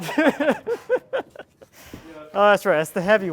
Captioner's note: both laughing